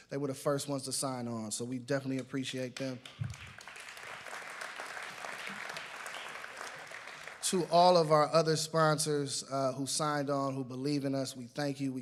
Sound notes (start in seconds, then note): 2.8 applause